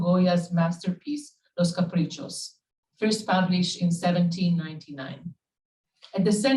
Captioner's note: Spanish